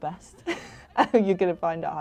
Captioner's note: laughs